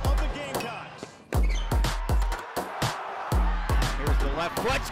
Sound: crowd cheering; upbeat music

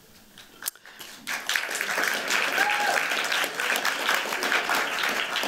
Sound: cheers, applause

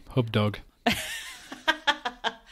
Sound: laughs

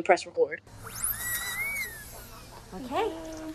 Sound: drilling

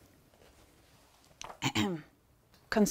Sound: clears throat

